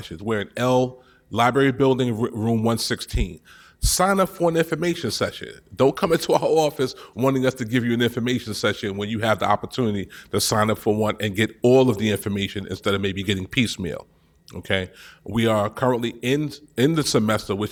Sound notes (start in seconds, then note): none